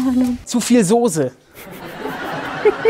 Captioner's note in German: Lachen